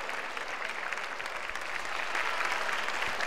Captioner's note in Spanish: Aplausos